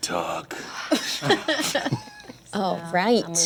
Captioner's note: laughter